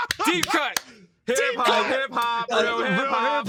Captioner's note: laughs